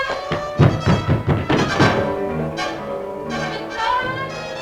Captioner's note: knocking